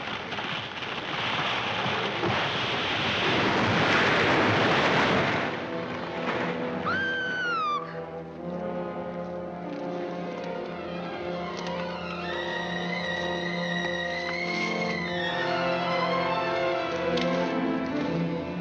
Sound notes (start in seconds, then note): 3.3 tree crashes; 6.8 Alicia screams; 8.2 dramatic music